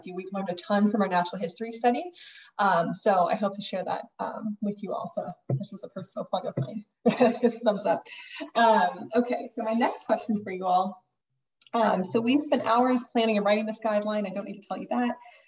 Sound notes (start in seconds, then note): 7.0 laughing